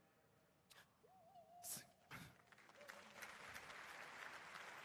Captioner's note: applause